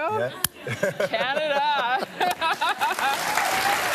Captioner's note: laughs